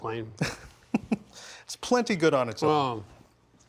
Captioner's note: laughs